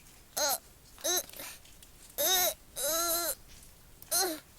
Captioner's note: Okten grunting